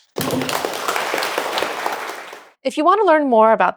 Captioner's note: applause